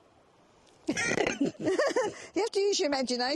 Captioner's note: laughing